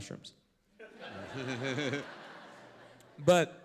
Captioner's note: laughter